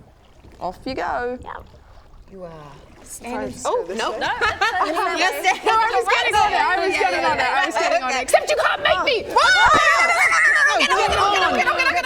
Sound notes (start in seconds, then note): 4.0 laughing; 9.4 screaming